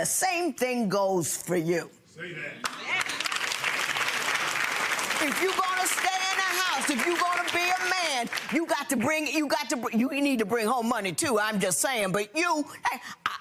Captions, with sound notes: And the same thing goes for you. (audience clapping) If you're gonna stay in the house, if you're gonna be a man, I'm just sayin', but you.